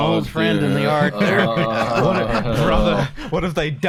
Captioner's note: chuckles